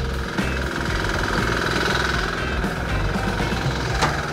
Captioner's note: machine whirring